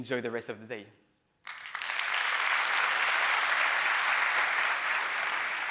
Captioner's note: applause